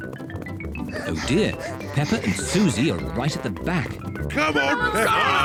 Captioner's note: both panting; all shout encouragement